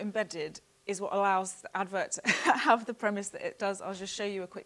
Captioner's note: chuckles